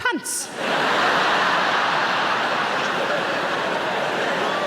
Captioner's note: audience laughs